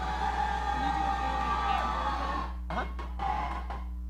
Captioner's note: audience cheering